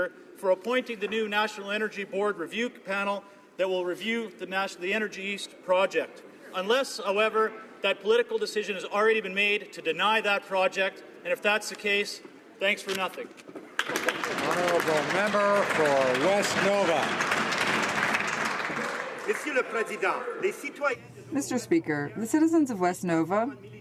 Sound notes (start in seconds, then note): 17.1 some Applause